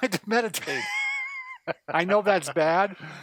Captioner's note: laughs